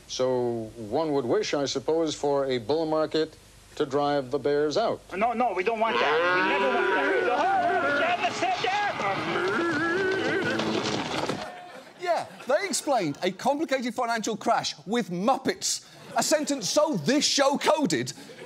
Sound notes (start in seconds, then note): 7.3 commotion